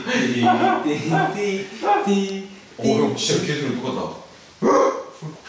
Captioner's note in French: fait un bruit d'aboiement